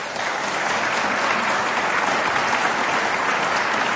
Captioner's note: audience applauding